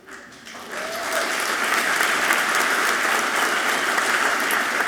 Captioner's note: audience clapping loudly